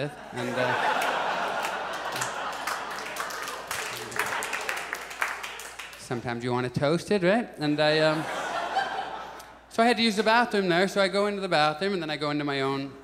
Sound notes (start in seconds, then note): 0.4 audience applauds; 8.0 audience laughs